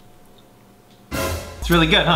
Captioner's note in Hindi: नाटकीय शोर